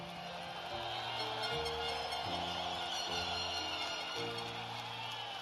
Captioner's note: cheers and applause